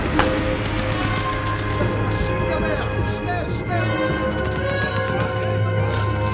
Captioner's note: soldier shouting in German